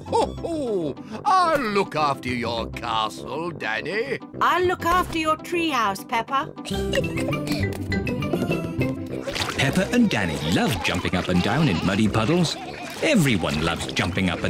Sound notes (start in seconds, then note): 0.1 laughs; 6.6 giggles